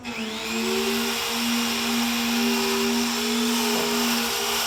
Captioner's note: electric saw